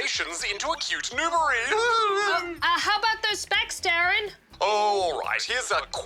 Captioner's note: laughs